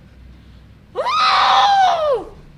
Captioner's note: howls